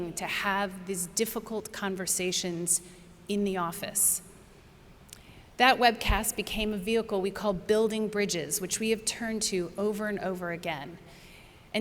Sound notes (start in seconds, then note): none